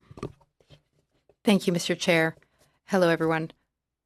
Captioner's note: speaking french